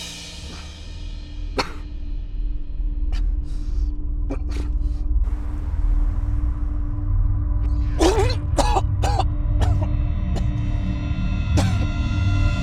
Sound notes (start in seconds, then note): 0.7 tense music; 1.5 Mark coughing; 7.9 Mark vomiting and coughing; 9.6 ominous music